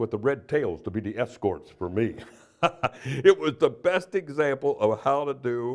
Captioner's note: laughter